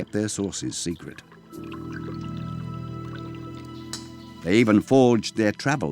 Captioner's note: water trickling